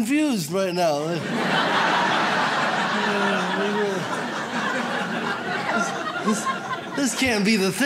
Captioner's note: audience laughs